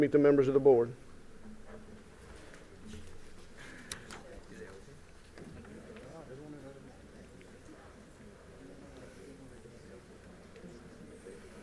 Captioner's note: group noise